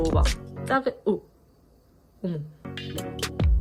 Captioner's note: poof